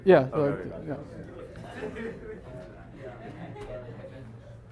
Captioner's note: students murmuring